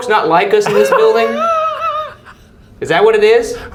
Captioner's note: laughing